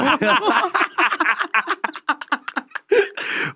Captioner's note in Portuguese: risos